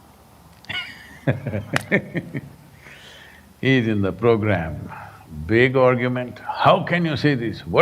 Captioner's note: laughs